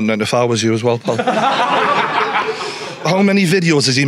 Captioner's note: audience laughing